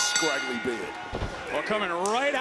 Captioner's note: bell rings